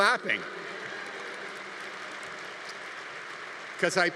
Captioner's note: audience applauding